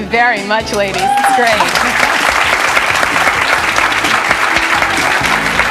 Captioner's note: audience clapping